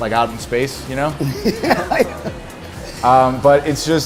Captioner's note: laughs